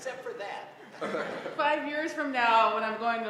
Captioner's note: laugh